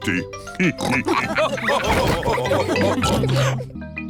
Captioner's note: all laugh